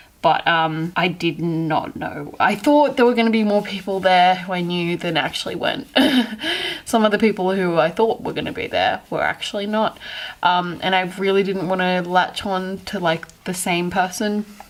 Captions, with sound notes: But, um, I did not know- I thought there were gonna be more people there who I knew then actually went. *laughs slightly* Some of the people who I thought were gonna be there were actually not. Um, and I really didn't want to latch on to, like, the same person